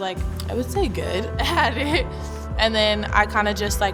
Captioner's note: laughs